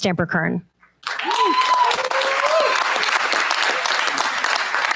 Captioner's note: cheers, applause